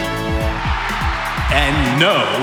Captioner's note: cheering